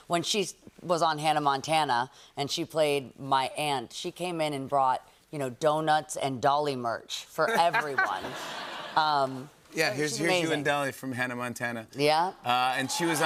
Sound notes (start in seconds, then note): 8.3 light laughter